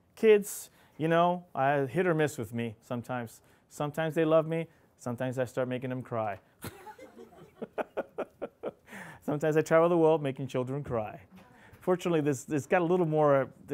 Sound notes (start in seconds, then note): 6.7 laughing